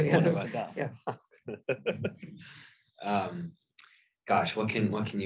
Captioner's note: laughs